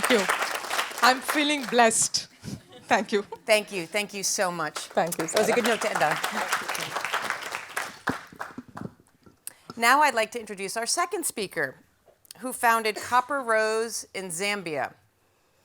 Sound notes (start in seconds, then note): 7.2 applause